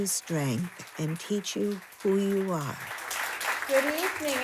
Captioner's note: audience applauding